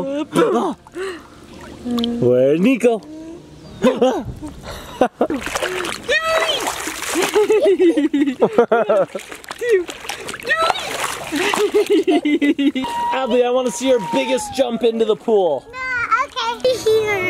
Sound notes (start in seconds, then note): 3.8 laughing; 6.6 water splashes; 7.1 laughing; 10.2 water splashes; 11.2 laughing